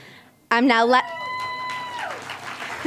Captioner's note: crowd cheering; applause